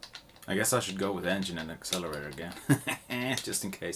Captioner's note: hehehe